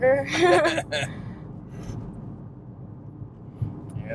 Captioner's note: both laughing